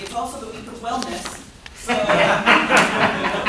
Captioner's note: laughter